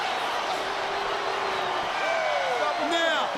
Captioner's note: crowd cheering